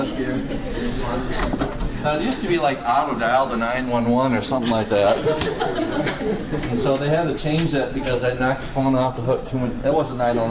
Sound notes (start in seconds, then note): 5.0 class laughs